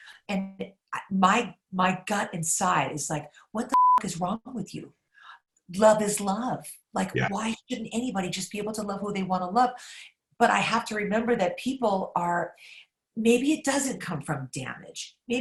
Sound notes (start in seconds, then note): 3.7 beep